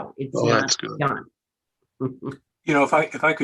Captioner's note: laughing